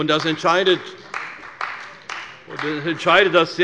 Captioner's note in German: Beifall bei der CDU